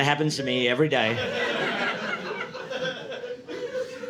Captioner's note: audience laughing